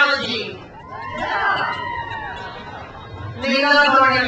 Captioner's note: crowd cheers